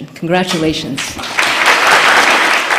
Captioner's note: applause